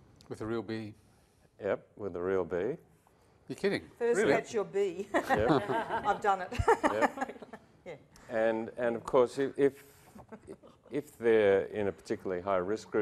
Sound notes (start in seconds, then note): 7.8 laughter